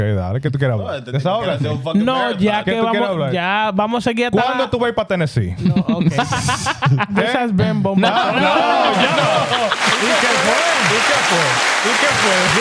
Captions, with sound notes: (Speaking In Foreign Language) (Laughing) This has been Bom Batou. No, no, no, no. (Applause) He kept way. He kept way.